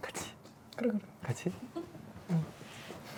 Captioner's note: whispers